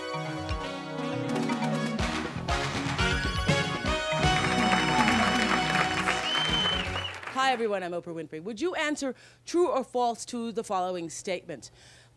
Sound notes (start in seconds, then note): 3.9 audience applause; 6.0 whistling